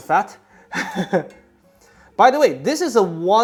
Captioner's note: chuckles